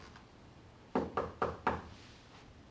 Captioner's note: knock at door